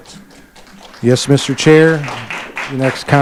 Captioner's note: audience applauding